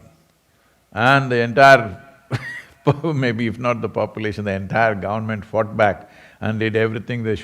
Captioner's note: laughs